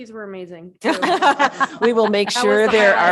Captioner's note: all laugh